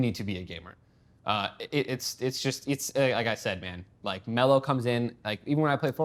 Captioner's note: stutters